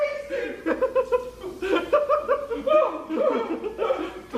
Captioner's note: laughs